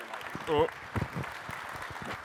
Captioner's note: applause